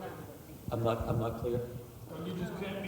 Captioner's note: voiceover